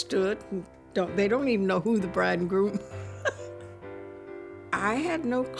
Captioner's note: chuckles